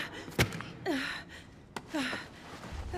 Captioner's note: breathing heavily